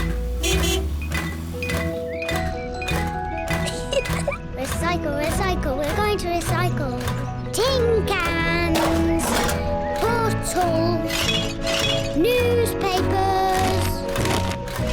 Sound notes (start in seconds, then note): 0.0 horn honks; 3.6 giggles; 9.0 cans rattle; 11.2 bottles clink; 13.5 newspapers thud